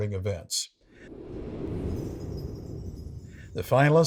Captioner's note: wind whooshing; bells chiming